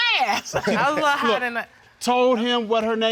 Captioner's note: judges laughing